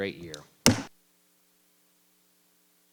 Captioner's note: gavel thudding